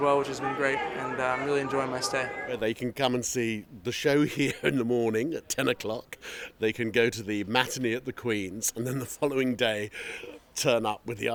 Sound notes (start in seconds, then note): 4.2 laughter